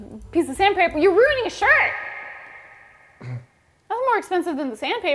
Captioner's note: laughing